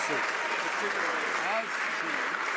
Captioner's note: some Applause